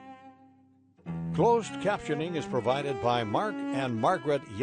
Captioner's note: voiceover